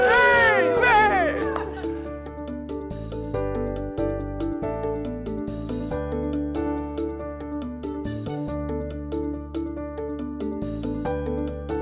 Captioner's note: cheering